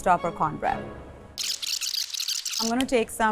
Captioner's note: audio tape whirring